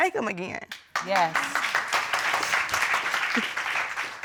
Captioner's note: audience applauding